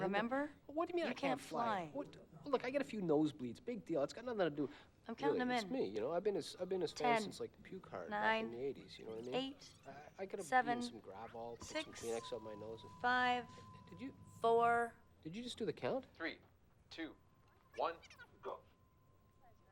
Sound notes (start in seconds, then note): none